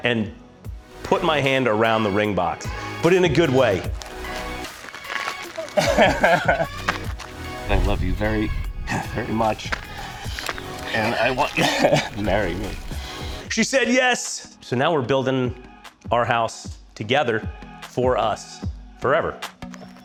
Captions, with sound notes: and put my hand around the ring box. But in a good way. (laughs) I love you very, very much. And I want you to marry me. - She said yes. So now we're building our house together. For us. Forever.